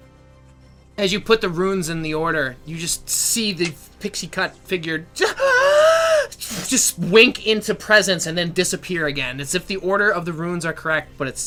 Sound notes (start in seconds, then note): 5.3 gasping